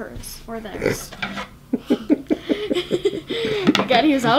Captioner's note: laughing